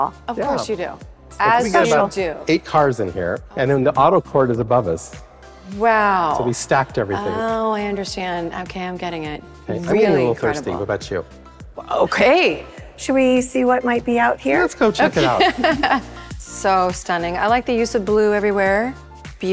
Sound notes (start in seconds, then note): 15.2 chuckling